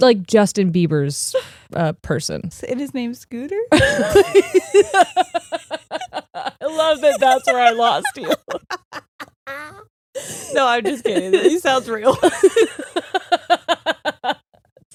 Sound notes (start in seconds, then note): 3.7 both laughing; 12.6 both laughing